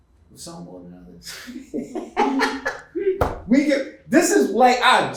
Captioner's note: chuckling